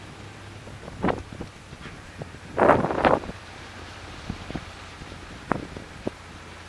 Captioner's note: more gusting wind - sounds